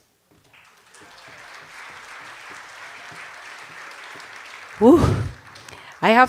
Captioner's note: cheers and applause